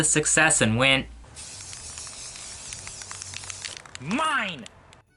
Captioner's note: spraying